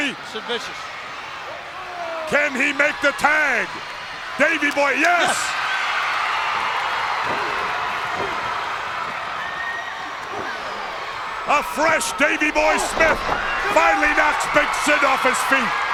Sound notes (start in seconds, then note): 6.0 crowd cheers